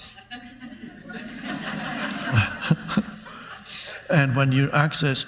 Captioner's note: Eckhart laughs; audience laughs